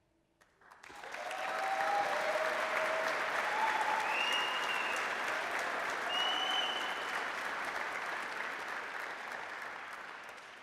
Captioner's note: applause, cheering